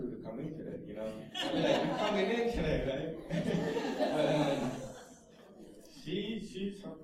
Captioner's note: laughter